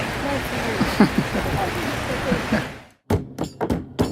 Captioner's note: laughs